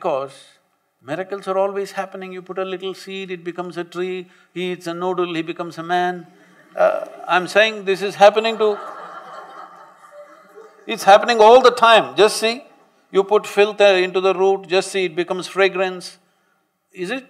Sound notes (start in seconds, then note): 6.3 laughter